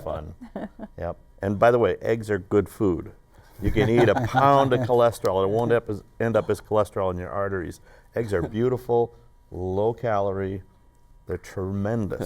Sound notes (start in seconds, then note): 8.2 laughter